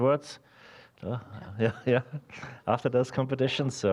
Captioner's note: chuckling